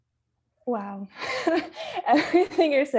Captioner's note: laughs